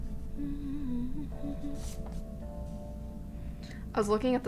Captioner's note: humming